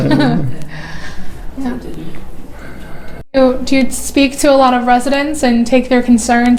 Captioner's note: whispering